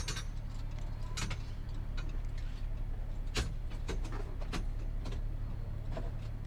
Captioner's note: jangle jangle